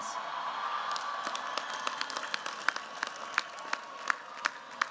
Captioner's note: cheers, applause